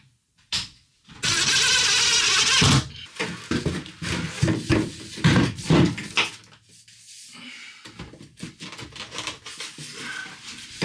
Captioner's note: drilling